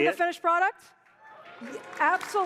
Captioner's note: applause